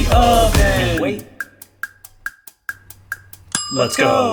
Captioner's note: clock ticking